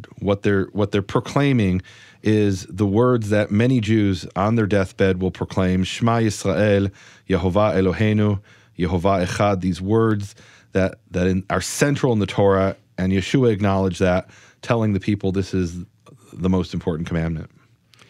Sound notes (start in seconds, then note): 6.1 speaks in foreign language